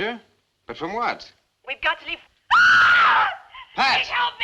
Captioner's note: scream